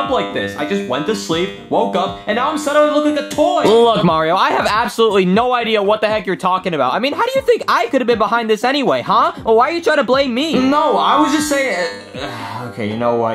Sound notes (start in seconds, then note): 12.1 sighing